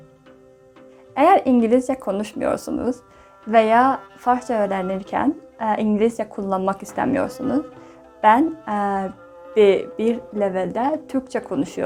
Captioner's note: Turkish